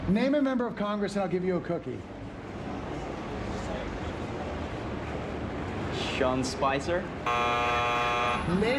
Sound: buzzer

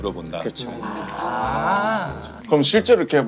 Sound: exclaiming

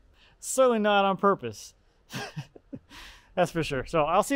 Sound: laughs

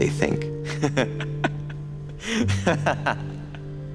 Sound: Squib laughs

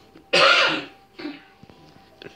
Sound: coughing

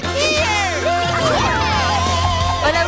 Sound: cheering

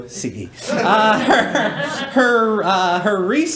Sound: laughing

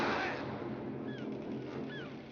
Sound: sea gulls crying

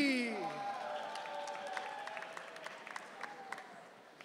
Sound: audience cheering

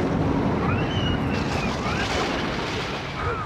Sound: thunder Rumbling; wind Whistling

